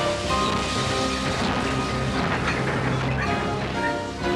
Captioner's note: kereta terengah-engah